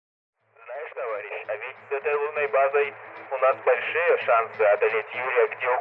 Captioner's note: in Russian